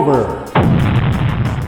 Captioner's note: explosion